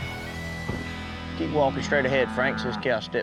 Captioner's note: door closes